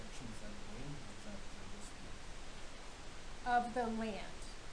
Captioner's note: man speaking